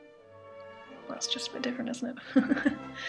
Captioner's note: nervous laughter